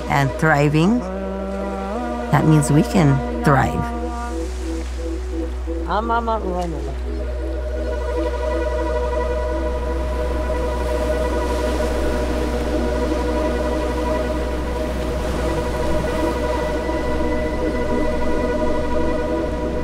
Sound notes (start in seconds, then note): 6.0 speaking foreign language; 9.1 soft music; 9.1 waves crashing